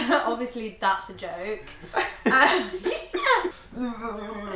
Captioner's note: laughs